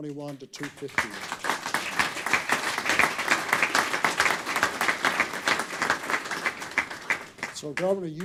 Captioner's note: applause